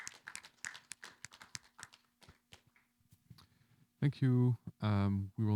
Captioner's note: applause